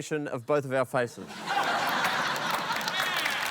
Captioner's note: audience exclaims